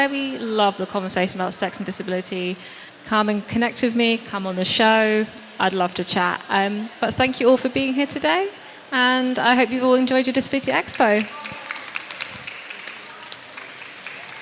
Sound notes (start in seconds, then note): 10.8 applause